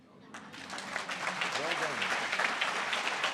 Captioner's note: audience applause